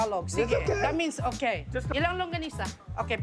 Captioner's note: speaking Tagalog